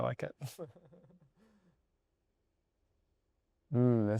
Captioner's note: laughs